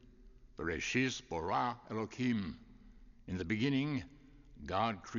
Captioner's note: speaking Hebrew